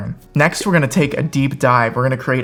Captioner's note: graphics pop